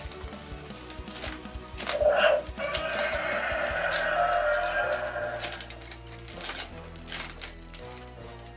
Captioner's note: roaring sounds